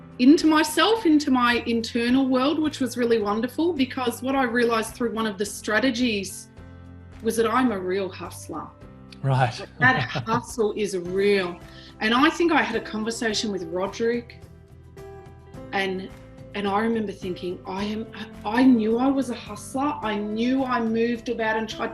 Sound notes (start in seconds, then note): 9.3 laughs